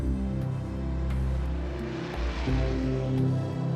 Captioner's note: engine revving